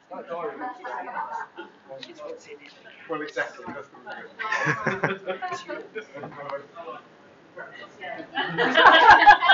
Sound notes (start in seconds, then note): 4.4 laughter